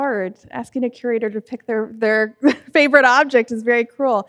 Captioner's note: laughs